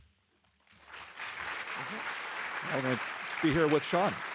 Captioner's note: participants applauding